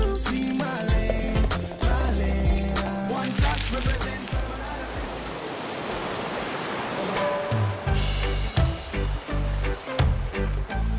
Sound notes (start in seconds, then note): 0.0 liquid pouring; 5.3 waves crashing; 7.2 playful music